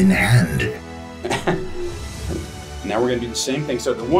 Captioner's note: laughs